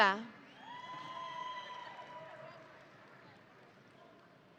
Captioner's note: audience cheering